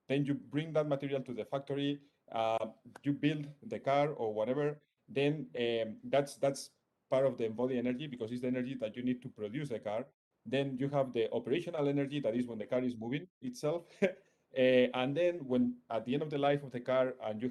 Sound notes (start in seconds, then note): 13.9 chuckles